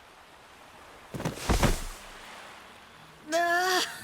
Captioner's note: thud